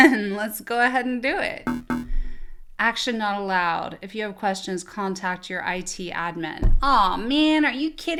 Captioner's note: error beep